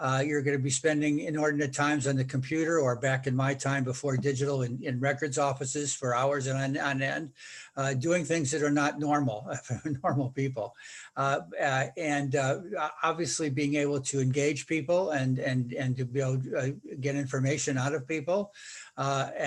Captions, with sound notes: You're going to be spending inordinate times on the computer or, back in my time, before digital, in records offices for hours on end doing things that are not normal [laughing] for normal people. And obviously, being able to engage people and to be able to get information out of people.